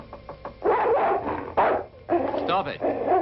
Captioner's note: knocking; dog barking